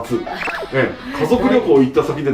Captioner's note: hahaha